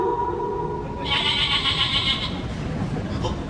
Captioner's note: wolf howl; sheep baa; laughing